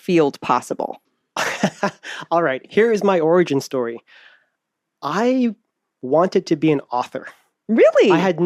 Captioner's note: laughs